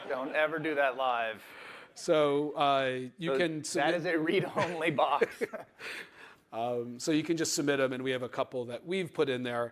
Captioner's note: laughter